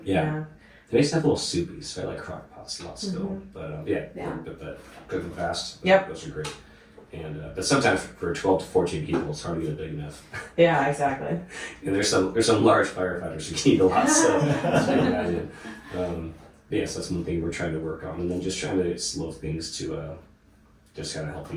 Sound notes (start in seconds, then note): 13.7 laughing